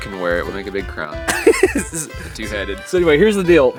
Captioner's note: laughs